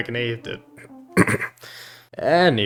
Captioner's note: clears throat